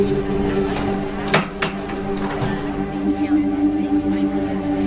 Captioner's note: people chattering